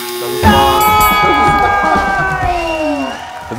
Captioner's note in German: Klingeln, Jubel, Applaus